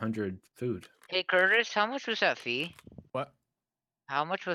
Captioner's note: humming from chat